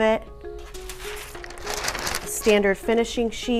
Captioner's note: sheet rustles